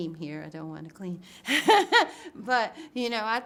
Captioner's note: laughs